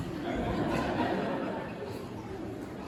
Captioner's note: laughter